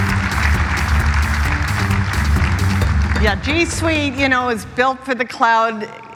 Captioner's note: applause